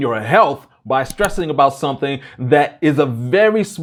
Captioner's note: mouse clicks